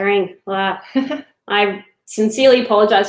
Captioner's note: laughing